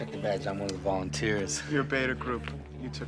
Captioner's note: none